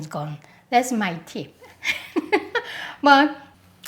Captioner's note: laughs